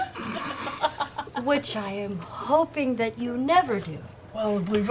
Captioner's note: laughter